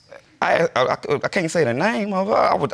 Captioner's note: stammering